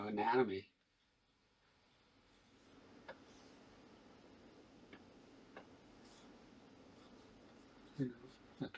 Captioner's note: silence